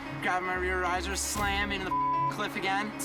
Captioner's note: beep